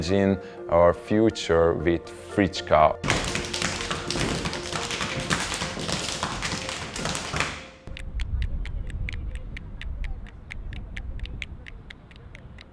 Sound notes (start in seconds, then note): 3.0 rapid patting; 8.3 snapping